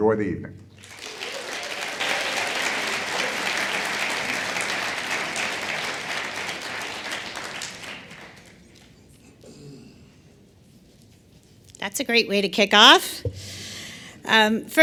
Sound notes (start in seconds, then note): 7.2 applause